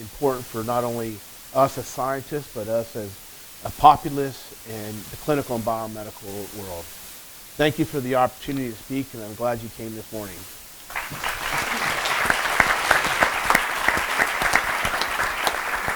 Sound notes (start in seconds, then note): 10.8 applause